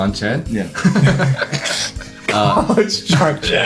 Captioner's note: everyone laughs